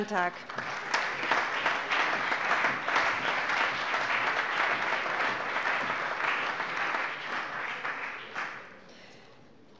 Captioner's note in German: Allgemeiner Beifall